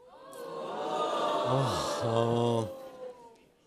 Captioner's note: sighs